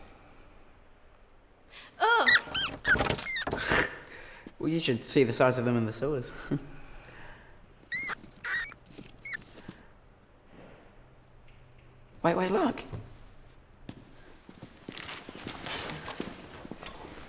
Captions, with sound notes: Ugh! (rat squeaking) - Well you should see the size of them in the sewers. Wait, wait, look.